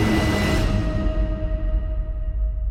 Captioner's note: crash